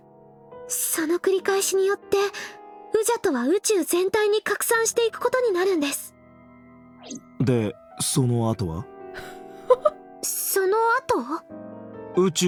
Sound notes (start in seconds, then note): 9.7 chuckles